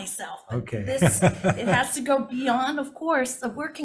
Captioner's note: laughs